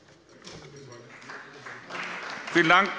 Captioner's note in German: Beifall bei der CDU und dem BÜNDNIS 90/DIE GRÜNEN